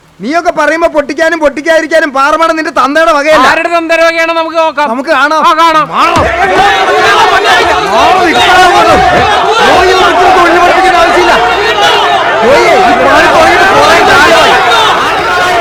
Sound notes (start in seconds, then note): 10.0 indistinct chatters